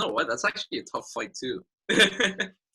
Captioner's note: laughing